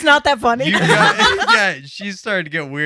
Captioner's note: laughing